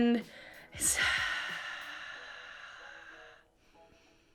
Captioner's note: exhales